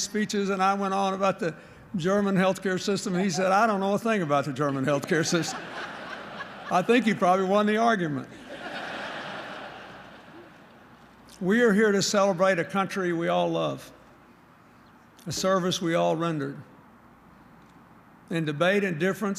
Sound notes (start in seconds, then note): 4.5 laughter